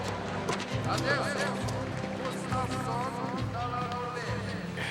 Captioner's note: announcer speaks in foreign language